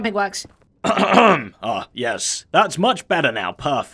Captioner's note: clears throat; deeper voice